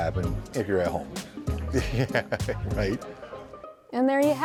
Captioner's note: laughing